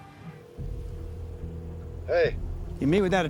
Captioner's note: phone rings